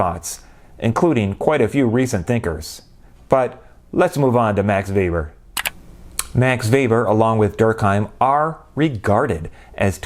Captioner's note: click